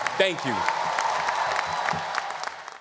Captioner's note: audience applause